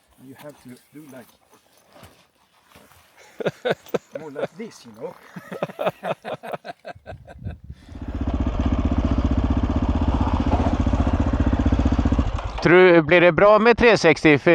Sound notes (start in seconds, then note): 6.1 laughing; 7.8 motorcycle engine roaring; 12.9 speaking in foreign language